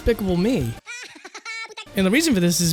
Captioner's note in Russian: смех миньона